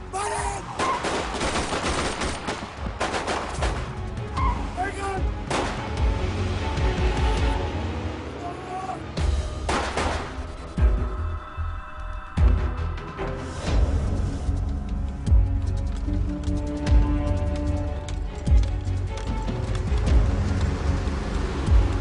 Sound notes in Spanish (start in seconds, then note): 0.8 Disparos; 5.9 Disparos; 15.2 Sonido del carro